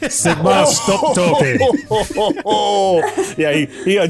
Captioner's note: big bear laughs